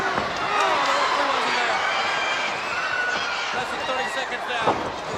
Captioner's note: presenter speaking faintly off mic